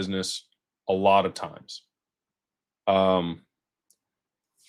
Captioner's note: none